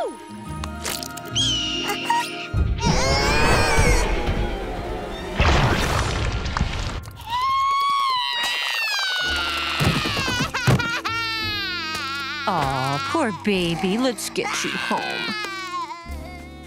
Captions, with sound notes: [squawking] [splatting] [crying] Oh, poor baby. Let's get you home. [crying]